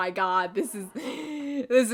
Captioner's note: inhale